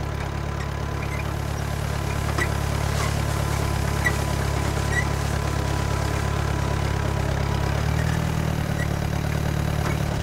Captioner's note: tractor running